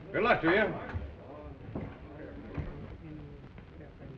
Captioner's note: chattering